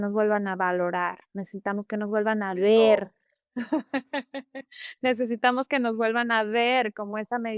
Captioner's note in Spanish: risas